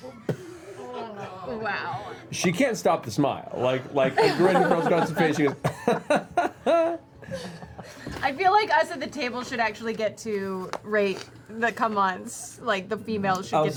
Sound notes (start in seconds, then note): 4.1 laughs